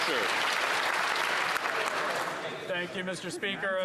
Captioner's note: some Applause